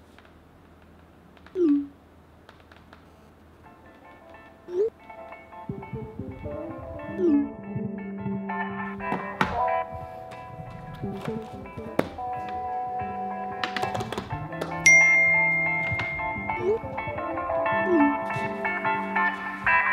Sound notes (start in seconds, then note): 13.4 tapping sound; 14.8 notification ring